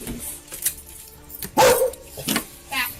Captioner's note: dog barks